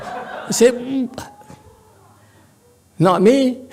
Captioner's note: laughs